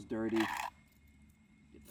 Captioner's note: scraping